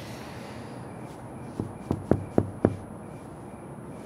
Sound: knocking on the door

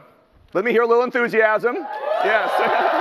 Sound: applause and cheering

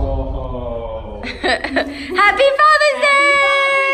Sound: chuckles; laughs

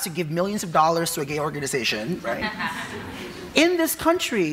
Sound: audience laughing

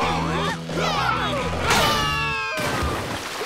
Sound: screaming

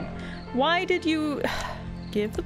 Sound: beleaguered sigh

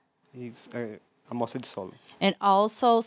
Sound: non-english speech

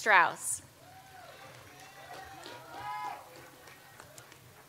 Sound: audience applauds

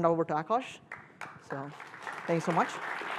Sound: applause

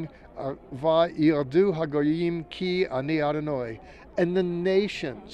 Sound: speaking in Hebrew

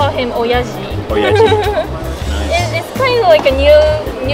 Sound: student laughs

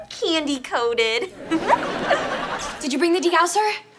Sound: giggling

